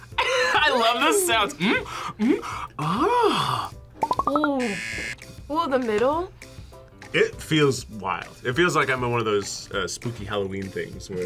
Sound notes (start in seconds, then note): 0.3 laughs; 4.6 buzzer